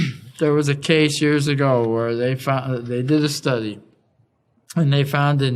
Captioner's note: cough